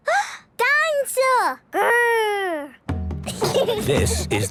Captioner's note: gasps; children giggling